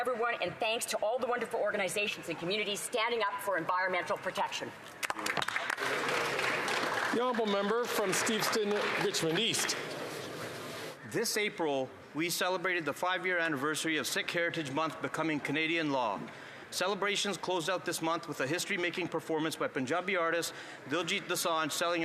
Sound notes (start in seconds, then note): 10.3 some Applause